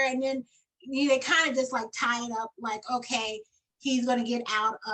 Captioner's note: none